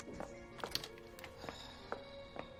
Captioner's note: soft music; sighs